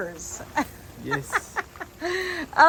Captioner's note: laughs